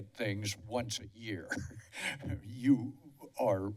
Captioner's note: laughter